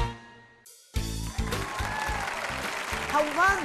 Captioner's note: applause